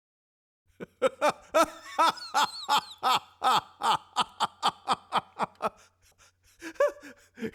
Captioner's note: laughter